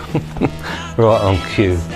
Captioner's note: giggling